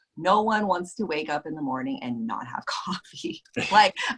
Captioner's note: laughs